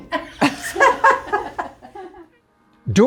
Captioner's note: laughing